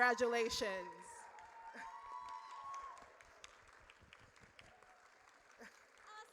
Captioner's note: audience cheers